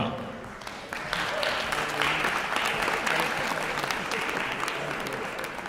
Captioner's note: applause